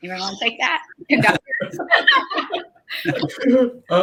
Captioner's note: laughing